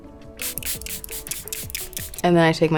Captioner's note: bottle spraying